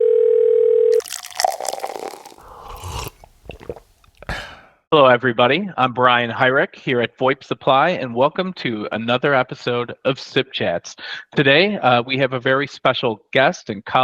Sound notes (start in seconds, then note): 0.0 phone ringing; 0.9 liquid pouring; 2.7 person slurping; 2.7 person swallowing